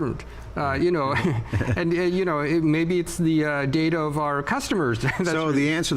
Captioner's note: laughs